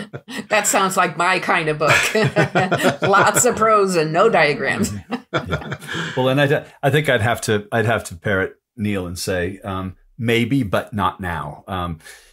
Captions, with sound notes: That sounds like my kind of book. [laughter] Lots of prose and no diagrams. I think I'd have to parrot Neal and say, maybe, but not now.